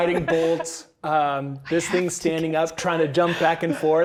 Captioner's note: players chatting